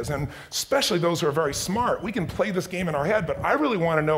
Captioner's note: none